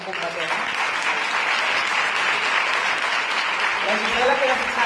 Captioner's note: applause